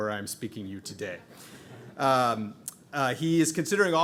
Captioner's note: audience laughing